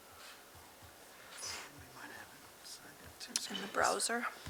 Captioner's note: whispers